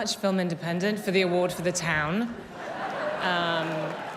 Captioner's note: cheers and applause